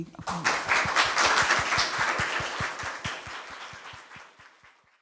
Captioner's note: audience applauds